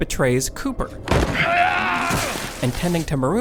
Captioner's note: Cooper yells